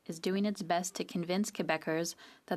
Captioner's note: speaking French